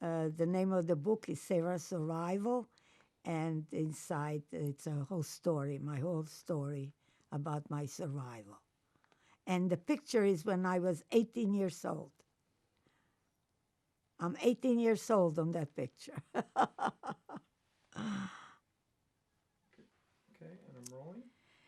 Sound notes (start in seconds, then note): 16.3 laughing